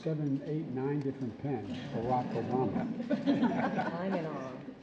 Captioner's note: laughter